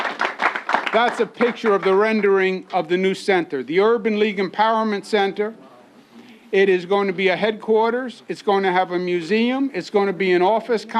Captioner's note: applause